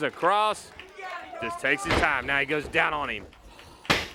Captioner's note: crowd chatter